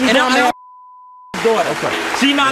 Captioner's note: audience applauds; overlapping chatter